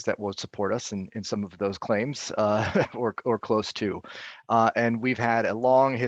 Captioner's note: laughing